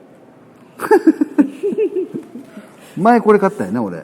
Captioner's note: laughs